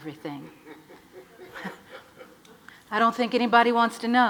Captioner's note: audience laughs